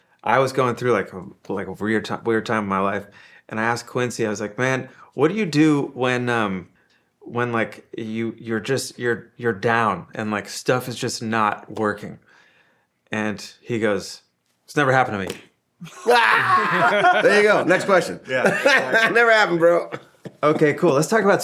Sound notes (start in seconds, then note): 15.8 all laughing; 18.5 laughing